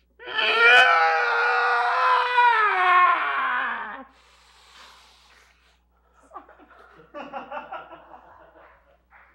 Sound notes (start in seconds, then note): 0.2 screaming; 4.1 sharp inhale; 6.2 laughter